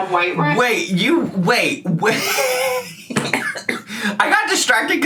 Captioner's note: laughing